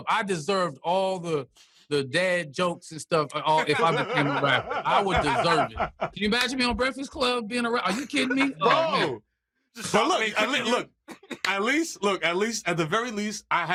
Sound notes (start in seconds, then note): 5.4 laughter